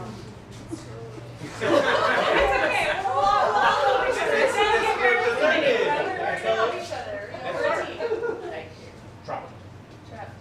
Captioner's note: groans and laughter